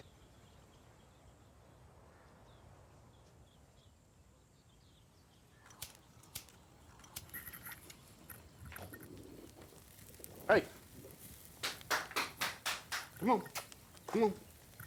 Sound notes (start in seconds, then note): 0.0 birds chirping; 5.6 lighter flicking; 11.5 dad clapping